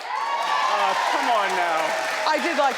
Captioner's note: audience cheers